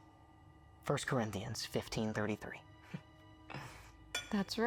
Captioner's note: inhales